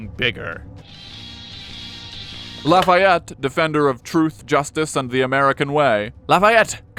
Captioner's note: ringtone